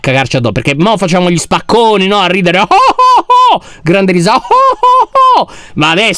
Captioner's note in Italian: finge una risata